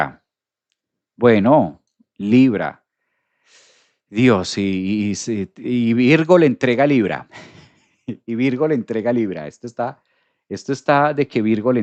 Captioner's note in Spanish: risas